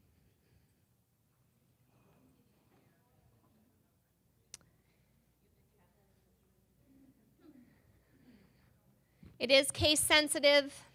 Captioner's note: silence